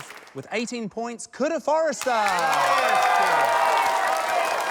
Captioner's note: cheering